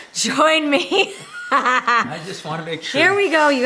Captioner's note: laughter